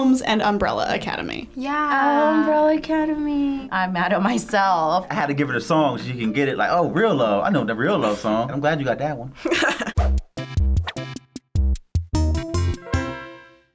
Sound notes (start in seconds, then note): 9.4 laughing; 10.0 quirky interlude